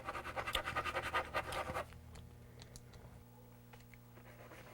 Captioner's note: pencil scribbling